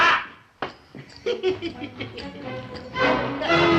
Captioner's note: chuckling